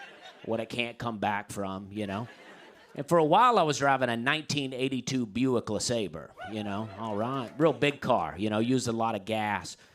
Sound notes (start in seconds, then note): 6.3 man cheers